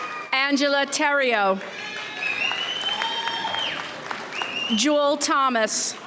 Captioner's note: audience cheers